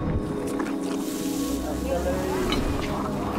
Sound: food sizzling

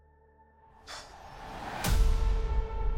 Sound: sharp exhale

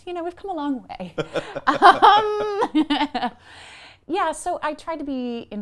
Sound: laughing

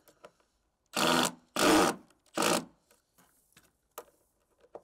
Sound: drill whirring; drill grating

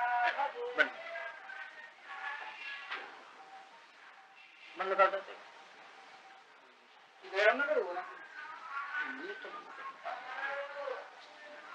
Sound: Hindi

